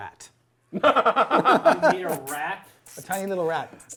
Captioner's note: laughter